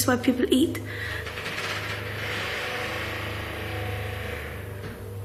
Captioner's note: creaking sound